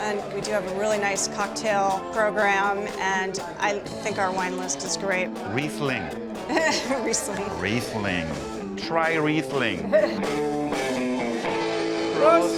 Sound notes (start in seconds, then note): 6.5 laughs; 10.6 jazz music